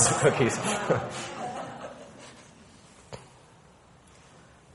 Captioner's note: people laughing